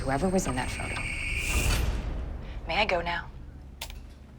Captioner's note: key clacks